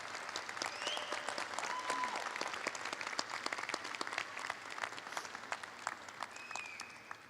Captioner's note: applause